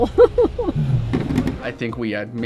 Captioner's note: laughing